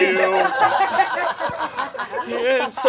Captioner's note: audience laughing